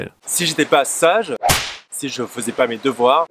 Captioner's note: whip